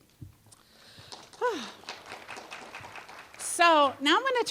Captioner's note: applause